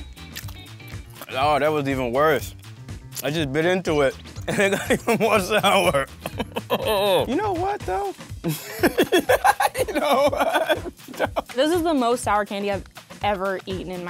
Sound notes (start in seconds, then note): 0.1 upbeat music; 8.4 laughter